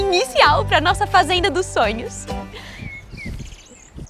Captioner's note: birds